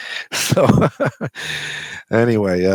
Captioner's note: laughs